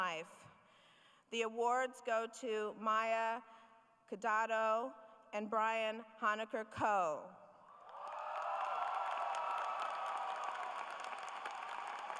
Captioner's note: cheering